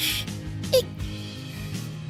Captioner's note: Hic